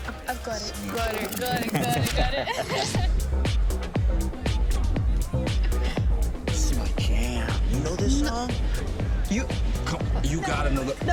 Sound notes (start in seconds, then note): 1.5 both laughing; 3.9 upbeat music